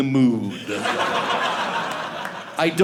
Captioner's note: audience laughing